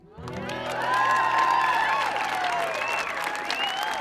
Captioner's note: audience cheering